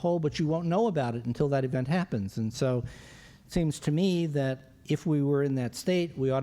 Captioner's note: none